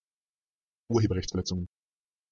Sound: fast Pronunciation

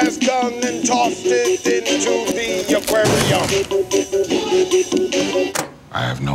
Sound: bag crunches

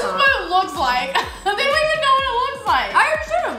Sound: laughs

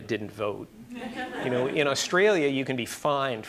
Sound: audience laughing

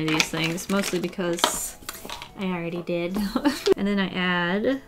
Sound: laughs

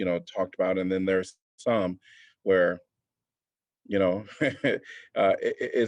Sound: laughter

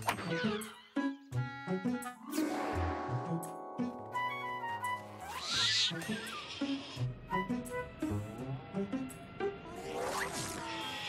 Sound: bird cry

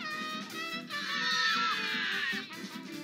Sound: screams

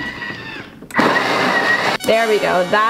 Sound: food processor whirring

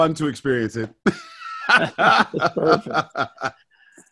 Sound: laughing

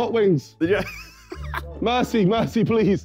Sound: laughing

